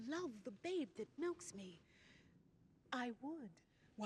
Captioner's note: none